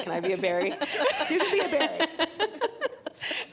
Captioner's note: both laughing